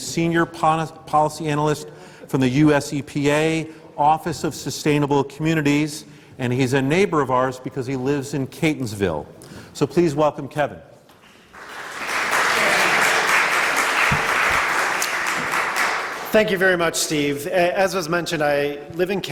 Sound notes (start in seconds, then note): 11.4 applause